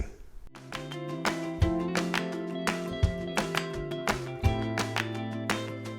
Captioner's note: light contemporary music; hands clapping